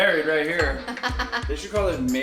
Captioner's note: laughing